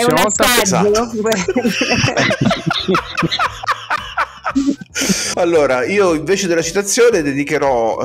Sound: laughs

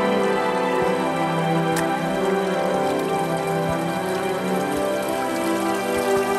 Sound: quiet music; sound of footsteps and running water

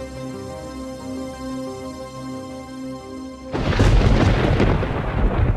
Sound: thunder rumbling

